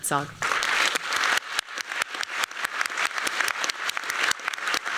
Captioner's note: applause